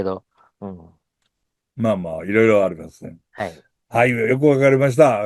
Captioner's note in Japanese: 鼻息